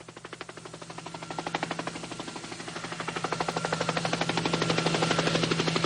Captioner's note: helicopter sound; helicopter